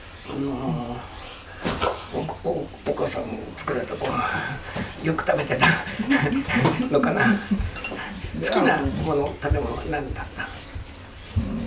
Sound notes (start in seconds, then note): 5.6 laughter